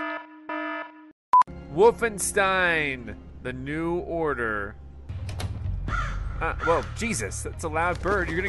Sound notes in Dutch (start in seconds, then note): 5.1 deur opent; 5.8 vogel kraait